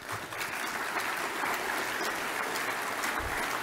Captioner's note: applause